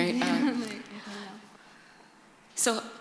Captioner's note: laughter